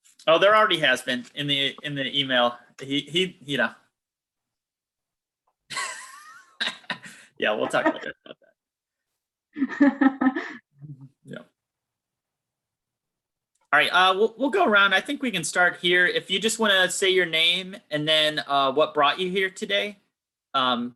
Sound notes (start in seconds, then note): 4.3 laughing